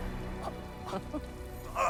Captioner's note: laugh